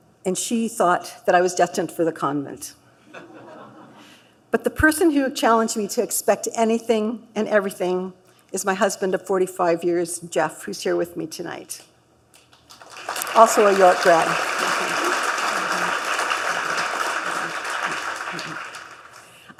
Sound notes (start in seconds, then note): 3.0 laughter; 12.7 applause